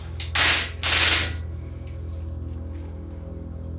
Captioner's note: whip smacking